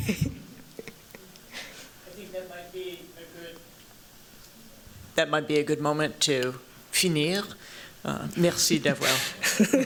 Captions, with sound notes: I think that might be a good moment to [FRENCH].